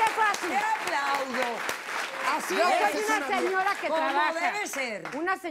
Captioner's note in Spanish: Aplausos